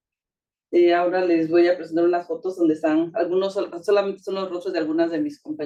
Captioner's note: speaking Spanish